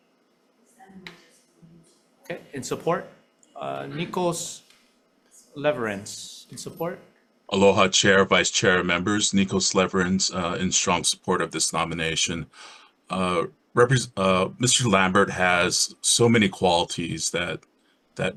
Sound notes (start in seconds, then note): 1.3 speaking faintly